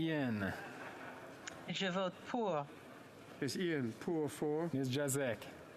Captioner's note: speaking French